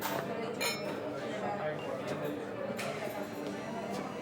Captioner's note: clink